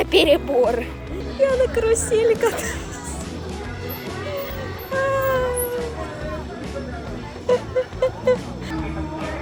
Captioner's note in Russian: смех